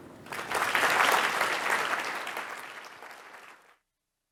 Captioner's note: audience clapping